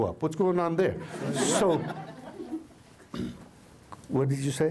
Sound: laughter

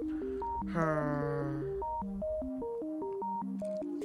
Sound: sigh

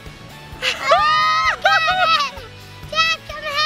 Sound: shouting

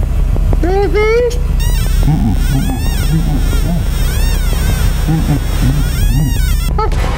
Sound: device bleeps wildly; zb shrieks

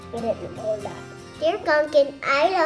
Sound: speaks off mike

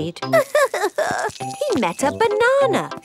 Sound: crying

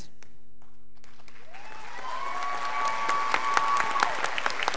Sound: crowd applauding

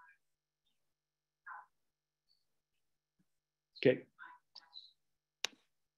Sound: woman speaking away from the mic

